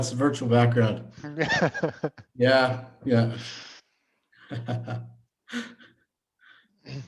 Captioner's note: laughing; laughs